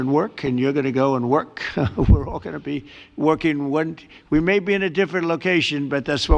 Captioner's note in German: lacht